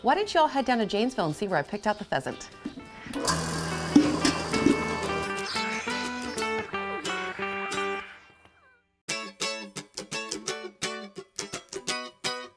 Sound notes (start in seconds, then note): 3.0 milking machine motor rumbles; 9.5 lively music